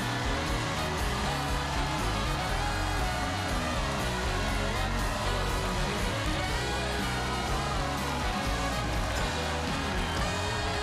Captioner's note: cheers and applause